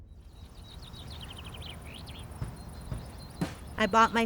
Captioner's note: birds chirping